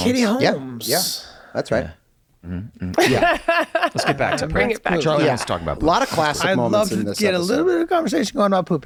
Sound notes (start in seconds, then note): 2.8 laughing